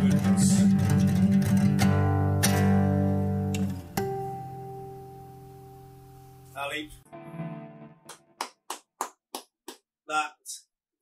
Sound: claps

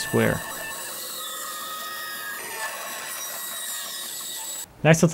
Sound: saw buzzing

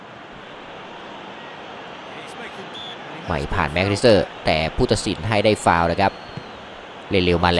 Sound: applause

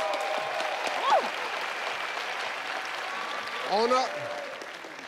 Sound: audience applauding

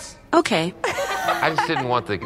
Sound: family laughs

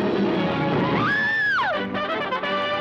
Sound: Lois screaming

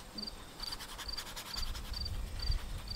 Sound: bristles scraping

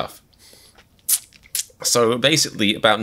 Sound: various mouth noises

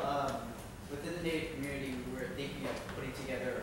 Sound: voiceover

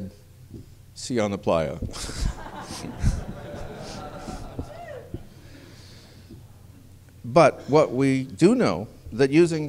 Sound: laughter

